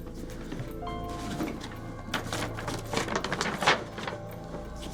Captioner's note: envelope ruffling